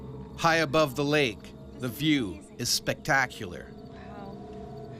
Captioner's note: voiceover